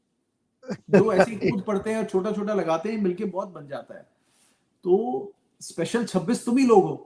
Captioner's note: laughter